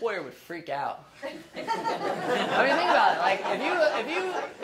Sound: laughing

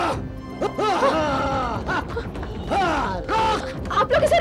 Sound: grunts

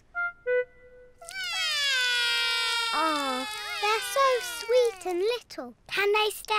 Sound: both whinny; both wail

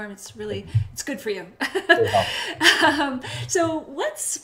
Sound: laughs

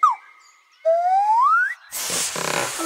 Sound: whistles; chuckles

